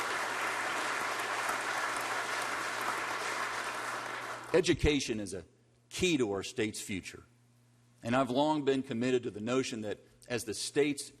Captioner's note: applause